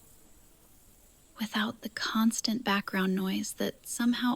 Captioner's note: whispers